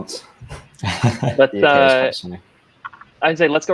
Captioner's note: laughing